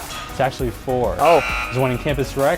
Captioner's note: error Buzzer